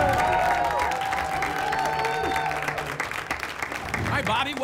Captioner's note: applause and cheering